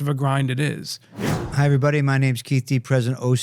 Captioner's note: air whooshes